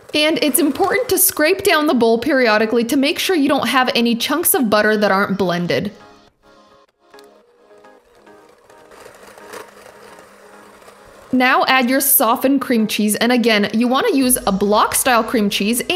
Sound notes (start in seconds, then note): 8.4 mixer buzzing